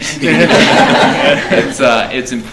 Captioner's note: laughing